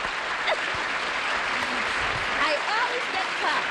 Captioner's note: applause